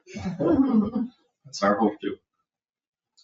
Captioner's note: people chuckle